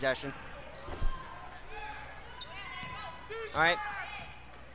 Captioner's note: crowd talking and yelling